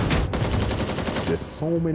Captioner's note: weapon shoots rapidly